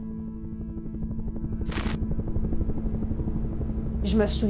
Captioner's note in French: bruit d'hélicoptère